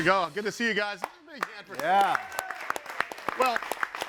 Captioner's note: all clapping